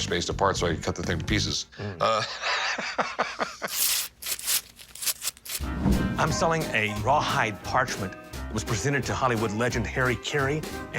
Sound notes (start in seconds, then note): 2.0 laughter; 3.6 tearing sounds